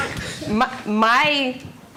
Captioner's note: all laughing